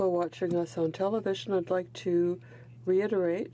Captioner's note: speaking French